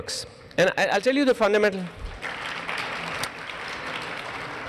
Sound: applause

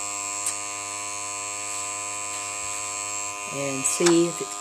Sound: airbrush machine buzzing

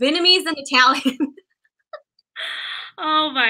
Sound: laughter

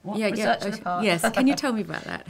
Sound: laughs

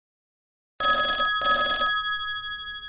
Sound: mobile phone ringing

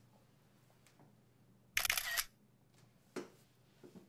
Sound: camera shutter sounds

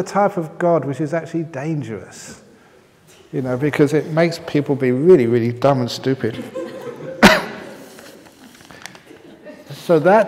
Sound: laughter

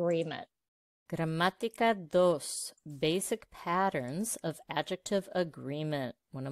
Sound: Spanish

